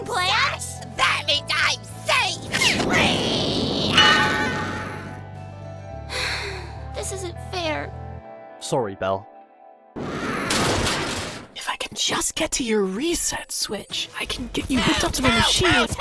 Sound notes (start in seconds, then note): 6.1 sighs; 10.0 robot flower screams